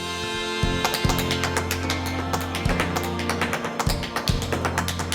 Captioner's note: rhythmic rock music; shoes tapping